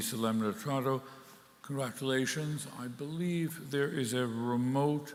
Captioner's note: speaking in Latin